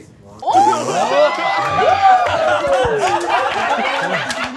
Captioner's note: all exclaiming